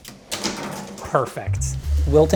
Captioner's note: container clatters on ground